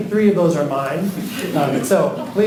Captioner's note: students laughing